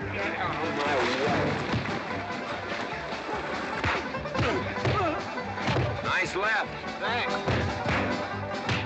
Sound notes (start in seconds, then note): 1.9 sounds of scuffling & fighting; 1.9 western fight music